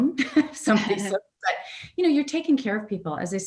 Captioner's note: audio warps